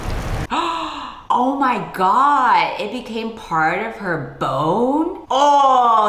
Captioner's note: gasps